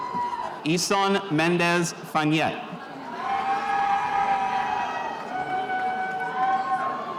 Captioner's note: spectators cheering